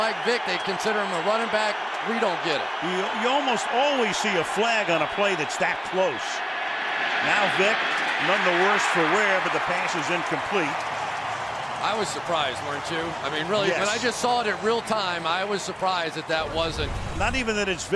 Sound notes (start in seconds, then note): 11.2 cheering